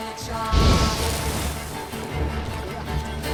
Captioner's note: flames whoosh